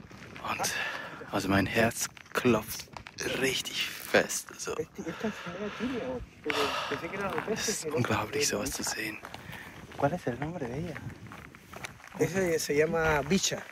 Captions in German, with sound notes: Mein Herz klopft richtig fest. Es ist unglaublich, sowas zu sehen. [auf Spanisch] Wie heißt sie? Sie hier heißt Bicha.